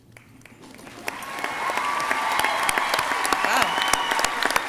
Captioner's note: crowd cheering